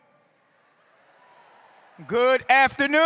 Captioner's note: crowd